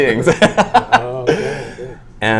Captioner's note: laughing